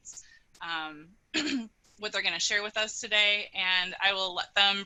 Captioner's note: clearing throat